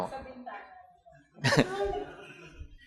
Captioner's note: chuckles